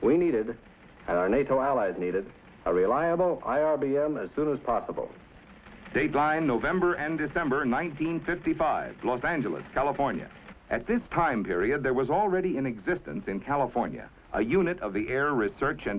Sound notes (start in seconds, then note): 5.4 teletype sounds